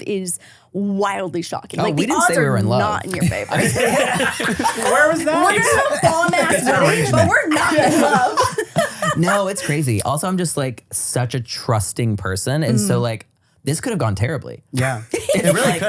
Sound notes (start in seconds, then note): 3.1 everybody laughs; 8.8 everyone laughs